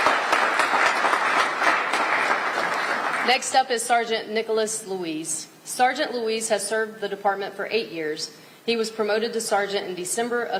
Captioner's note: applause